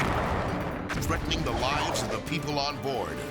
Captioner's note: explosions booming; debris whirring